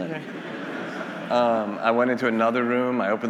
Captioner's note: attendees laughing